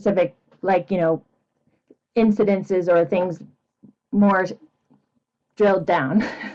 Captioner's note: chuckles